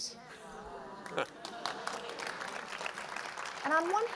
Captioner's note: applause